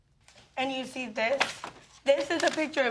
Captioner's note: paper rustling